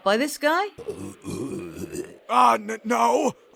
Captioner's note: gurgling